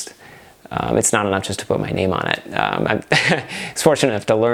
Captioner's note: laughs